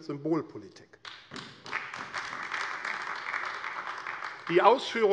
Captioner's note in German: Beifall AfD